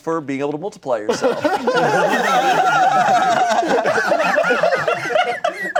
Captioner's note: everyone laughing